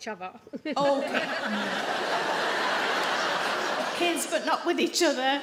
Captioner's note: audience laugh